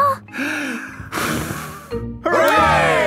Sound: breathes deeply, blows

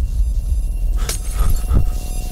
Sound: glass breaking

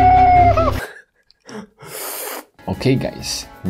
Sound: laughs and slurps

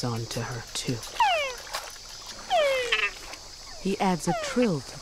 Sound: frog groaning

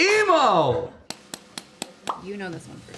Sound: clapping

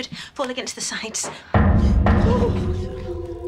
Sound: pounding

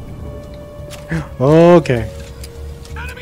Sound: gasps

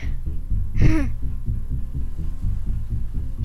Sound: giggles

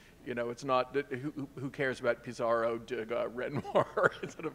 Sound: chuckling

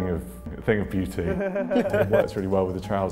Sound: chuckling

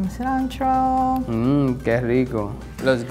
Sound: speaking in foreign language

